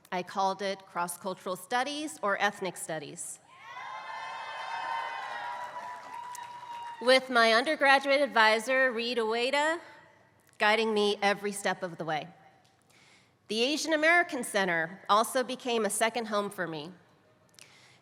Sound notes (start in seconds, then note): 3.8 applause